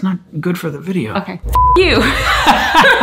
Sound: beep; both laughing

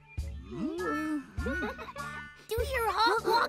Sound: both giggling

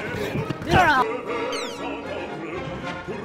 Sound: laughs

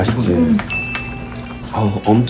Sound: munching away

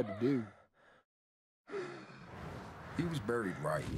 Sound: heavy breathing

